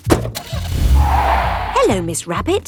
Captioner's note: car starting; tires screeching